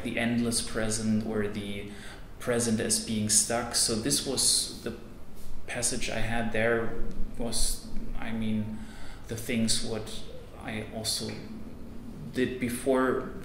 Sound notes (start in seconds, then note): none